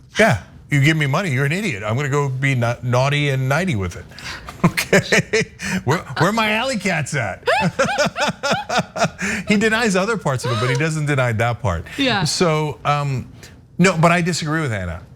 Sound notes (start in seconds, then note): 7.4 laugh